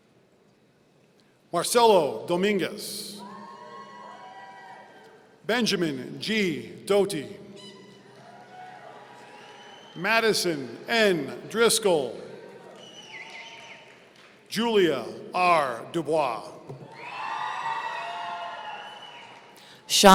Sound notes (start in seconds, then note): 3.1 audience cheering; 7.6 audience cheering; 12.4 audience cheering; 16.8 audience cheering